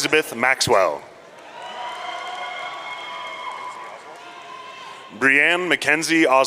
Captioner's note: audience cheering